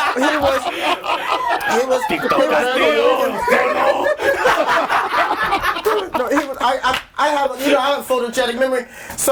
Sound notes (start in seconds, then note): 3.5 all laughing hysterically